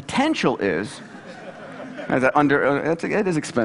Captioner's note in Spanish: Risas